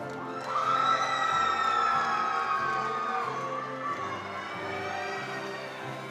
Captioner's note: attendees cheering and applauding